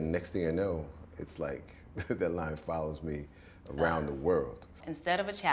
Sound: laughs

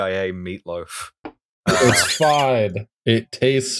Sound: laughter

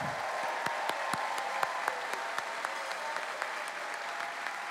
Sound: cheering

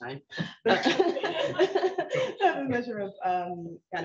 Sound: individuals laughing

